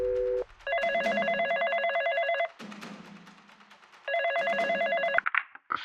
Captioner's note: phone ringing